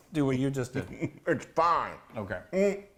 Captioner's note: laughing